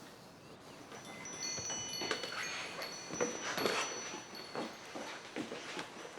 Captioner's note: ringing of wind chimes